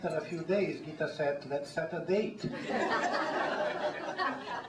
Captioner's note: laughter